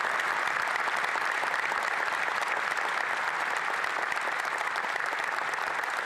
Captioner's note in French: applaudissements